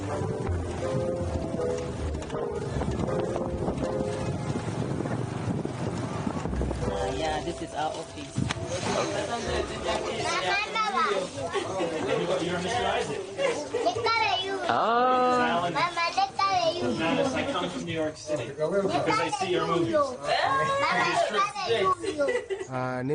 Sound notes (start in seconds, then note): 20.4 exclaims; 22.0 laughs